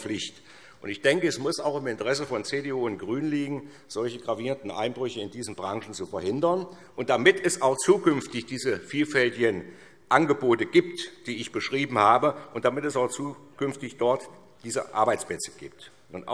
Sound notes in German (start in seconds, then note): none